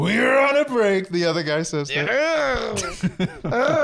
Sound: gurgling; tiny Wookiee noise

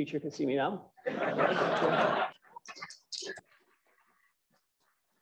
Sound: laughter

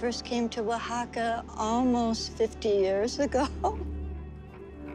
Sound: laughs

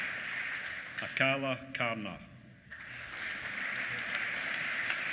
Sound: applause

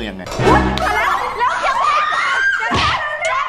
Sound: screams

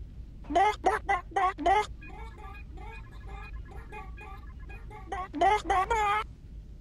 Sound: 🐔 intimidating chicken noises

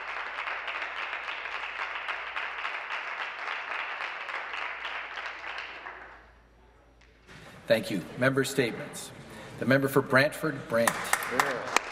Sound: some Applause

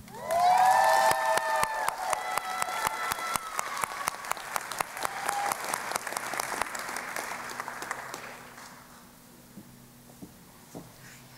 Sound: cheering and Applause

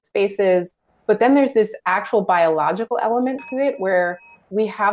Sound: bell dings

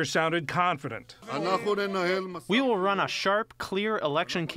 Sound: through translator

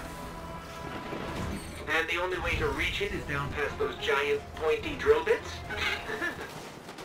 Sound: nervous laughter

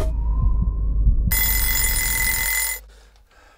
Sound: wind whistles; alarm clock rings; man gasps

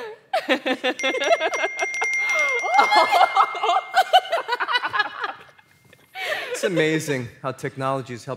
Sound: laughter and repetitive dinging

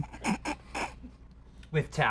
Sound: snickers

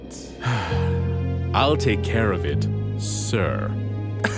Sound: sigh

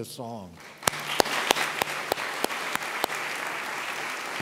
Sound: audience claps

